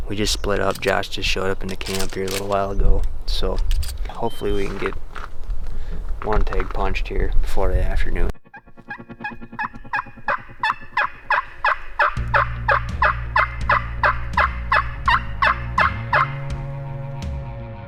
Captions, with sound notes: we just split up, Josh just showed up in the camp here a little while ago, so, hopefully we can get one tag punched here before the afternoon. (imitation squawking) (deep rock music)